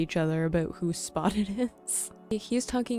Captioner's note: chuckles